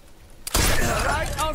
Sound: german

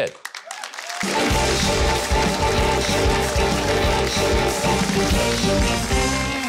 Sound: audience applauds; upbeat music

